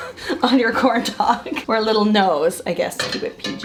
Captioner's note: laughs